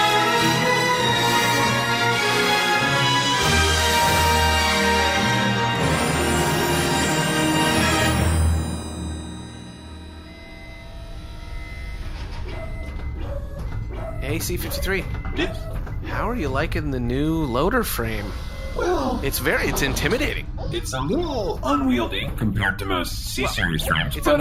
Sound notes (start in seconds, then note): 0.3 dramatic, orchestral climax; 5.1 mechanical noises as C-53 walks into the room; 18.8 quiet backing-up beeps